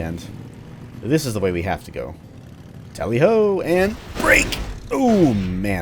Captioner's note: smash